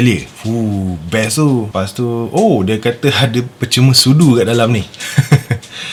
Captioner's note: laughs